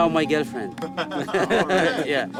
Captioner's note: laughter